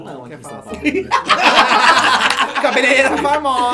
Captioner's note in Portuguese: risos